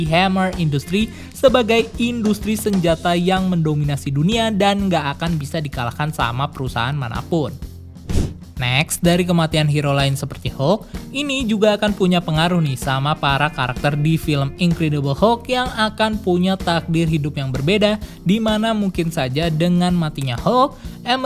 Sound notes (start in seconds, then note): 8.0 transition sound